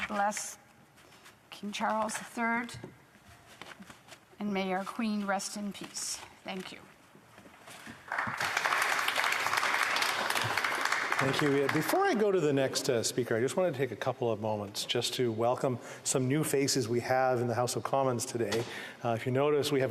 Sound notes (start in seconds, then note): 7.9 applause